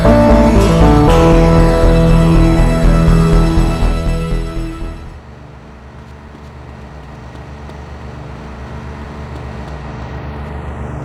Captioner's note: car engine